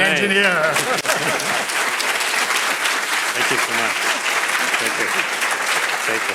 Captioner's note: crowd applauding